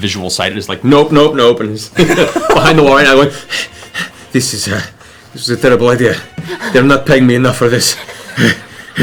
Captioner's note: panting